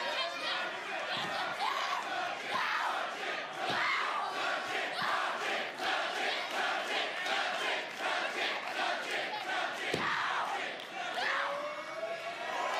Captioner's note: fans chanting